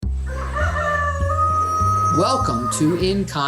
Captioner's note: chicken crowing